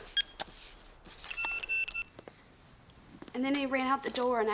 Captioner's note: keys beeping